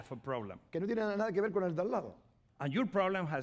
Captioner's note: speaking spanish